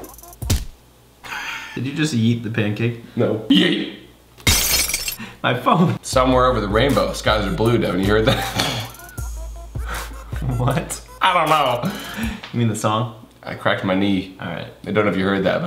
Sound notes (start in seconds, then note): 0.3 laughing; 0.3 splatting; 4.4 glass smashing